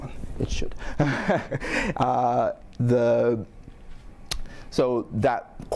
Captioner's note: chuckles